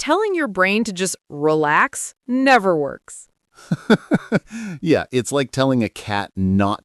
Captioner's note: laughs